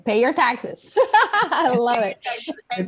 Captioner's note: laughs